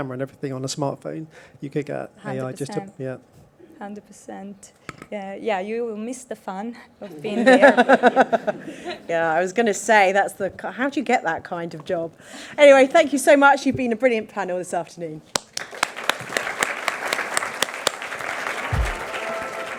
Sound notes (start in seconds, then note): 7.9 panelists laugh; 15.6 audience applauds